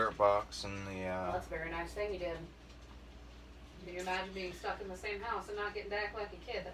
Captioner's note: chatter